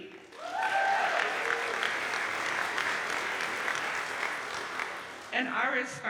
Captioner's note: audience cheers and applauds